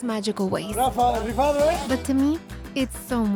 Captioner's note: speaks Spanish